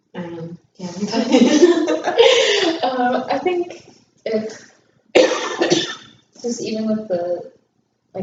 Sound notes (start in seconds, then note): 2.8 laughter; 5.1 cough